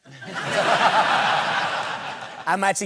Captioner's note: laughter